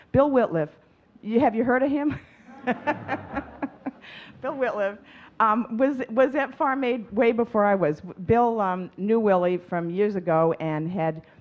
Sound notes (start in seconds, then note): 2.4 audience chuckling; 2.4 chuckling